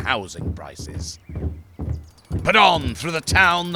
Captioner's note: marching footsteps